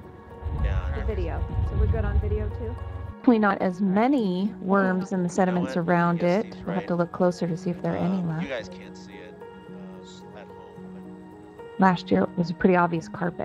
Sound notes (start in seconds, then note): 8.3 voices